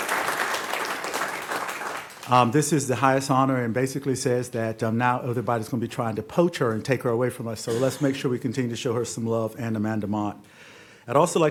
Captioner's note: applause